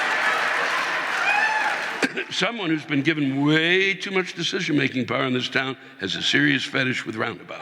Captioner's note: audience laughing